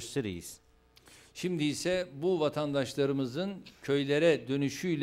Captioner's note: non-english speech